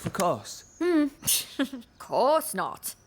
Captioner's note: giggles